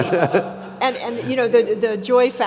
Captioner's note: laughs